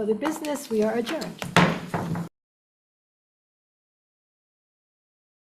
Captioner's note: gavel banging